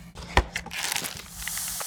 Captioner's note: cardboard popping; paper crinkling